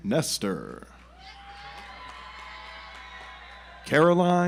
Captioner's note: audience applauds